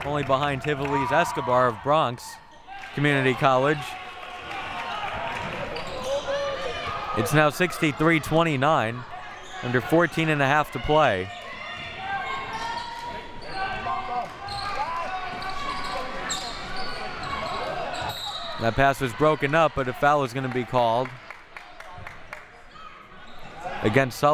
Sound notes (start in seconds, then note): 11.9 audience chattering and yelling; 18.0 whistle blowing